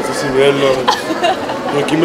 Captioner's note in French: la fille rigole